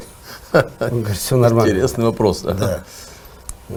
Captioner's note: laughs